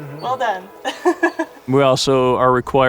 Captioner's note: laughs